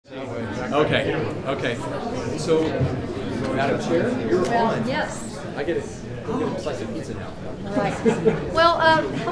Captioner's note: crowd chattering